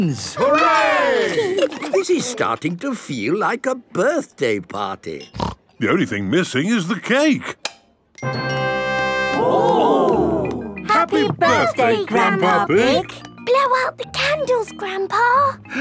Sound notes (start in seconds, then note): 8.0 click